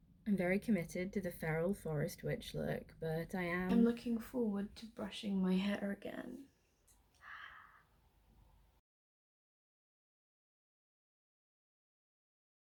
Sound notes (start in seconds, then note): 10.4 dramatic gasp